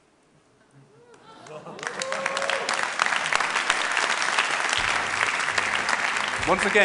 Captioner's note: applause